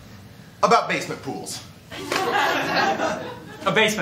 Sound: laughter

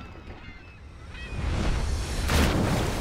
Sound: seagulls squawking; air whooshing; water splashing

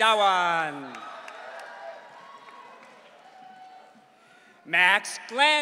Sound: audience cheering

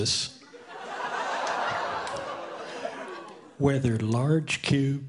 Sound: audience laughing

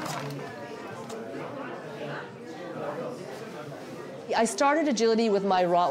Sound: booth personnel chatting

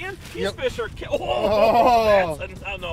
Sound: both exclaiming

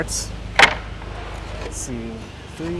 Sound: wood clattering

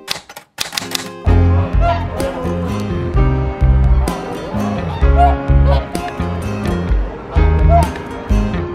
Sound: sound of geese

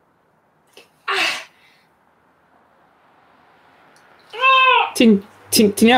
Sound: she groans in pain

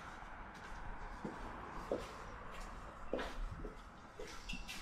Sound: traffic sounds

